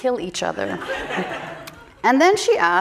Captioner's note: audience laughing